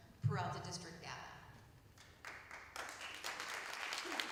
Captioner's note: applause